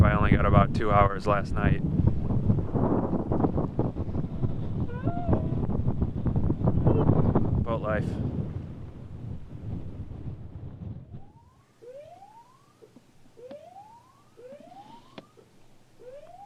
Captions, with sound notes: I only got about two hours last night. (yawns) Boat life (intermittent siren)